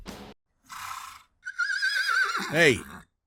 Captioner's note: horse neighs